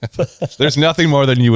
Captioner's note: laughs